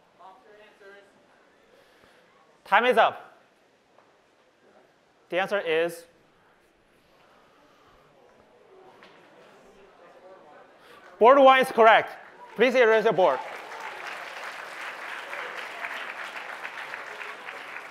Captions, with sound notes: Box your answers. Time is up. The answer is-- Just Board 1. Board 1 is correct. Please erase your board. [APPLAUSE]